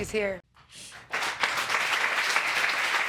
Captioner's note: audience clapping